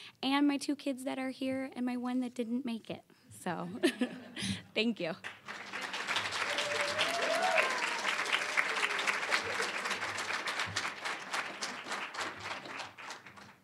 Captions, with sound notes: and my two kids that are here and my one that didn't make it. So... (chuckling) thank you. (applause, cheering) (applause)